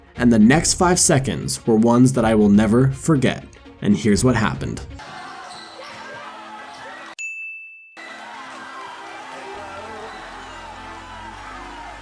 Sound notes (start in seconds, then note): 5.6 cheering; 7.2 dinging; 8.0 dance music